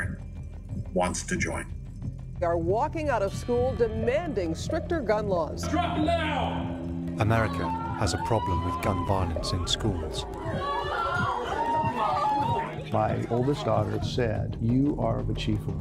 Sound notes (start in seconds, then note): 7.1 people screaming; 7.3 screaming